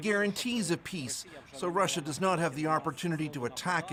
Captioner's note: speaking alternate language